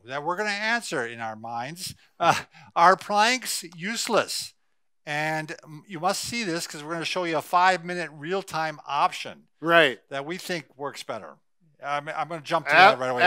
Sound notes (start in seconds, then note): 2.3 laughs